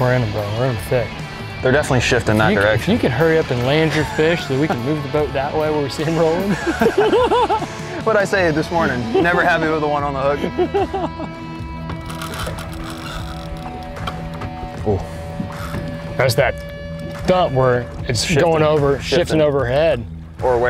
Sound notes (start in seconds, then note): 6.4 both laughing; 10.3 laughing